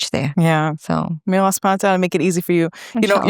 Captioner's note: speaks in foreign language